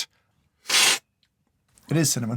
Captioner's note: slurp